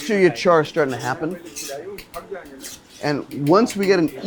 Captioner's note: speaks in foreign language